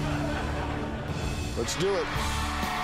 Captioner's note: laughter